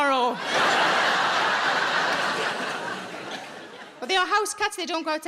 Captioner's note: audience laughs